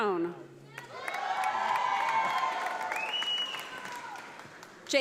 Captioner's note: audience applauding